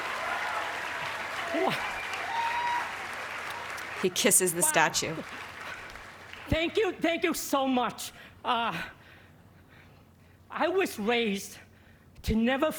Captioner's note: applause